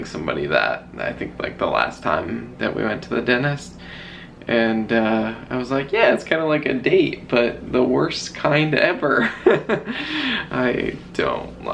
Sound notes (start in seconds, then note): 9.2 weakly chuckling